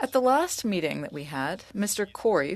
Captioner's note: speaking French